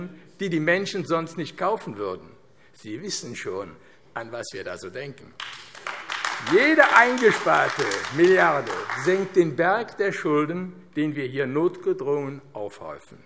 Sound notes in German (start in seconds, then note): 5.4 Beifall AfD